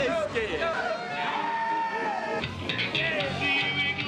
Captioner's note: yelling